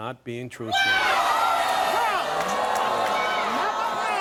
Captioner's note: audience groaning